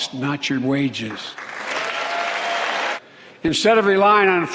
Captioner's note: applause